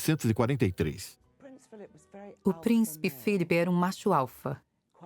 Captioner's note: voiceover